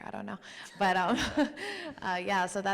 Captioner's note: chuckles